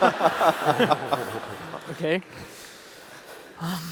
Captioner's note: laughter